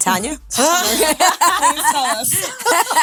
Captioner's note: group laughing